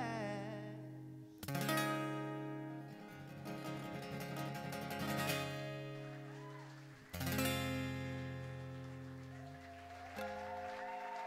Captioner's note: applause